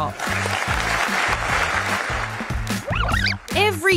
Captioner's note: applause